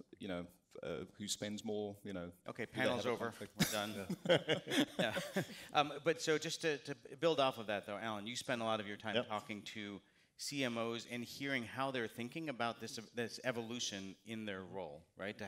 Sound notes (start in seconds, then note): 3.5 laughter